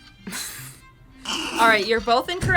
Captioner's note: laughs